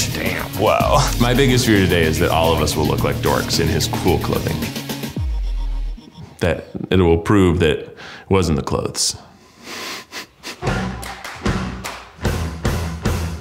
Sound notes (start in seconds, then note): 10.0 chuckles; 10.6 upbeat music